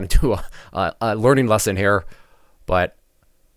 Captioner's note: laughs